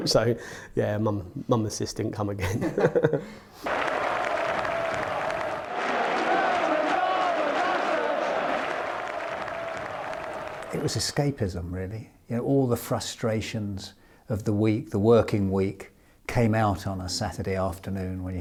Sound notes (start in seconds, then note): 2.5 laughs; 4.1 fans clapping; 5.6 fans cheering; 6.5 fans chanting